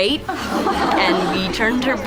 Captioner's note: laughter